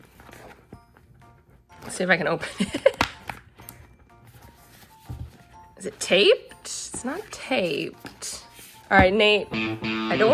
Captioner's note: laughs; guitar riff